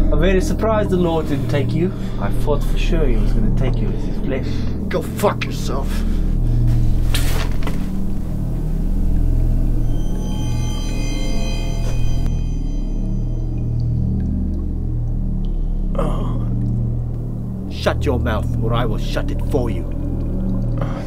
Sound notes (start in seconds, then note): 7.0 spits; 15.9 moans